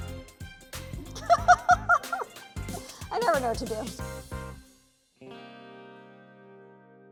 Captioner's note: laughs